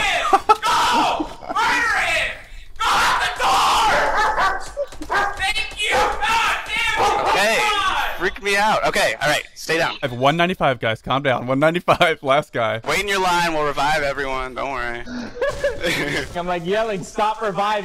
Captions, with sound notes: GO! MURDER HIM! Go out the door! Thank you! Gosh, darn it! Guys calm down. 195, last guy. (laughing) wait in your line, we'll revive everyone don't worry